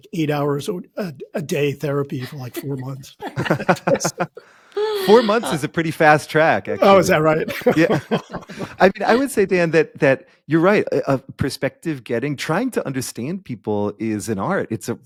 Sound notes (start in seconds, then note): 2.1 laughing; 6.8 laughing